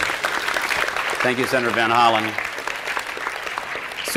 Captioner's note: applause